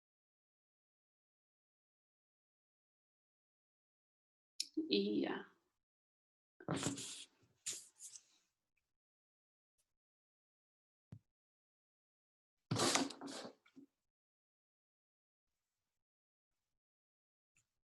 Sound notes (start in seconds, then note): 7.0 silence